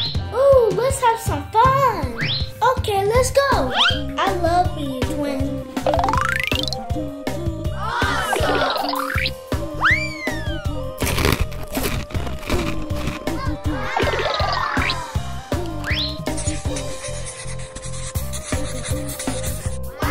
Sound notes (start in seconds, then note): 9.8 slide whistle descending; 10.9 Gaga Baby crunching; 16.3 crayon scratching; 16.5 upbeat music